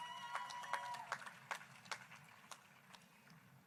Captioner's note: applause